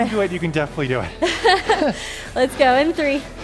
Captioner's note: laughs